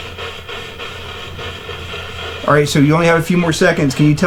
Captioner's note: radio static hisses